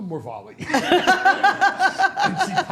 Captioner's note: all laughing